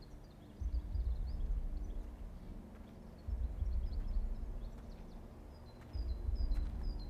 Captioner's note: birds chirping; gentle tense music